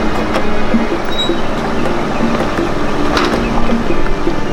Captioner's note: door creaks